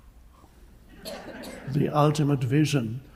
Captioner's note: audience laughs